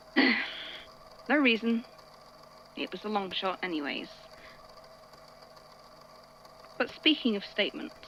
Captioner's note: sighs